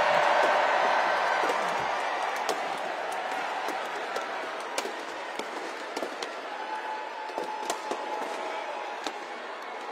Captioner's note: cheers and applause